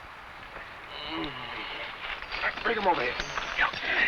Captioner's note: man groans